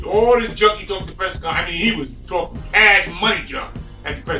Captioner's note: murmurs